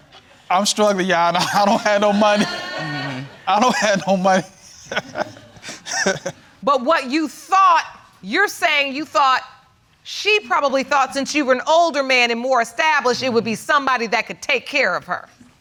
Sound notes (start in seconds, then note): 5.4 laughing